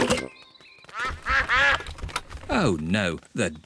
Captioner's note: quacking